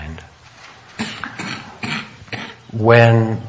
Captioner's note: coughing